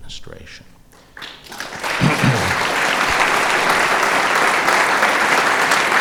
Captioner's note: applause